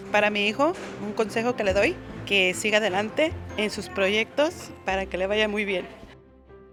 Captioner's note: third woman speaks in foreign language